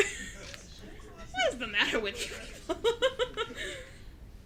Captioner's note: laughing